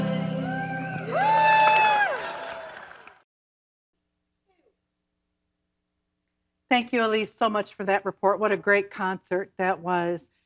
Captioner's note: applause